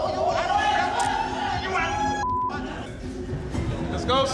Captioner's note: shouting